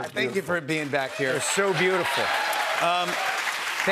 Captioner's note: cheers and applause